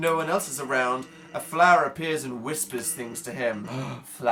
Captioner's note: gasps again